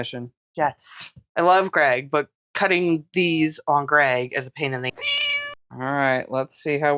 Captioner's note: meow